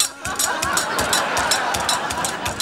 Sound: laughing

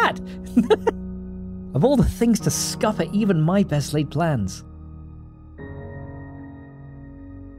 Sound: laughs

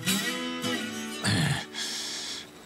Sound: blues guitar playing; grunting

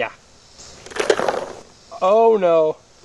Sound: voiceover

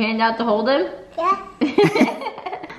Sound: laughing

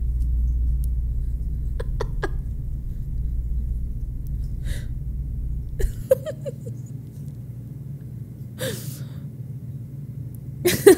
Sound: laughs

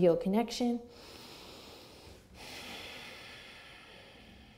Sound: breathes deeply

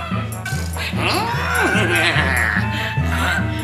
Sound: neighs; caws

